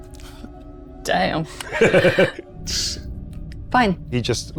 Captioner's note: chuckles